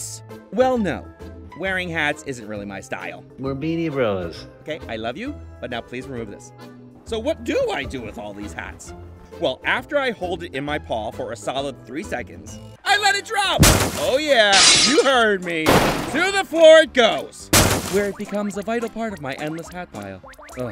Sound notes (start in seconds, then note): 13.6 glass breaking